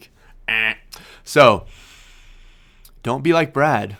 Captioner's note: imitates buzzer